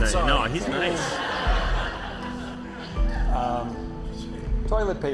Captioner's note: laughter